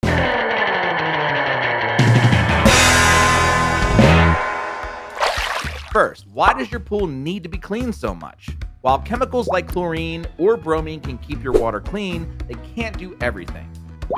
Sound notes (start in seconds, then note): 0.0 upbeat old time rock; 5.1 water splashes